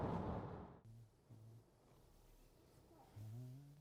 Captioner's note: Mercer humming